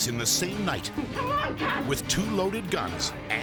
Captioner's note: persons screaming